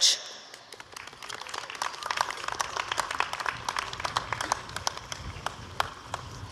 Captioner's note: applause